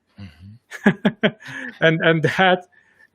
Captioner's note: laughs